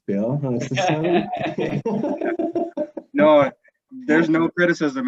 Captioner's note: laughing